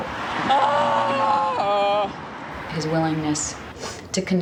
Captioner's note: she screams